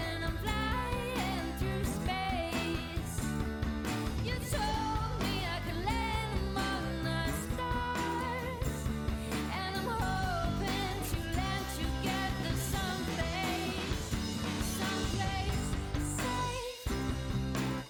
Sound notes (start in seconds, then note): none